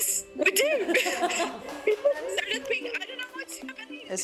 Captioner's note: laughter and claps